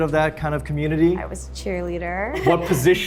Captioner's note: Arden laughs